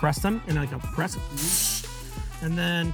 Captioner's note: vocalizing